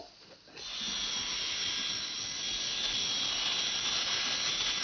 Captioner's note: airplane whirring